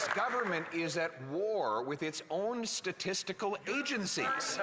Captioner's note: some Applause